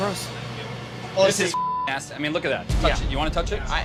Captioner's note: beep